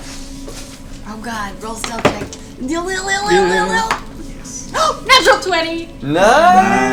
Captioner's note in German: Schnappt nach Luft